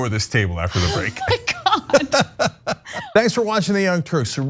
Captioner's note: laugh